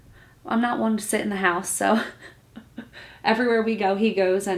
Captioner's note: laughs